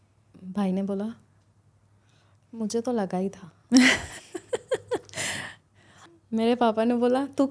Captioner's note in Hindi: हंसी